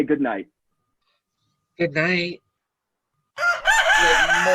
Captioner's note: rooster crows